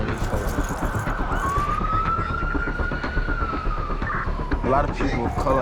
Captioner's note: sirens, radio chatter